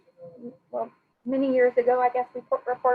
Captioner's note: speaking faintly